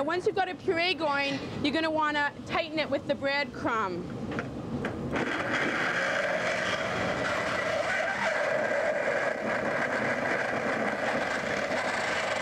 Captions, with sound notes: Now once you've got a puree going, you're gonna wanna tighten it with the breadcrumb. (whirring)